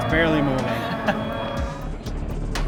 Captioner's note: chuckles; dramatic music